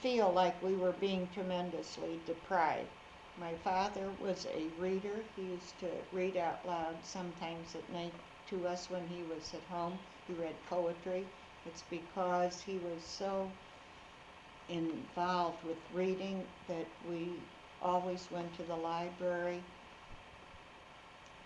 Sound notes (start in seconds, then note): none